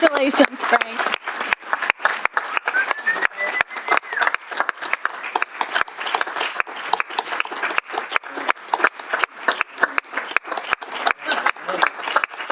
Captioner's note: applause